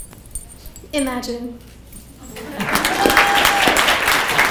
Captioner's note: people clapping